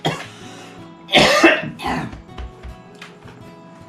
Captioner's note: still coughing.. pounds chest